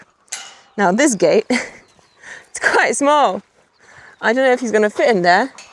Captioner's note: chuckles